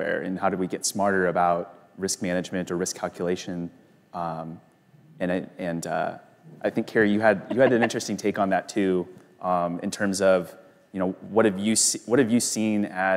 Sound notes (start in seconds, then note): 7.2 laughs